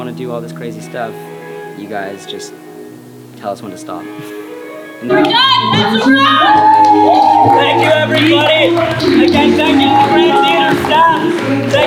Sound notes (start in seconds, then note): 7.9 cheering